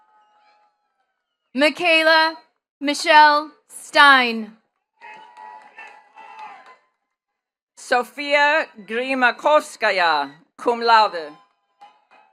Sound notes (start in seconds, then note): 5.0 attendees cheering and clapping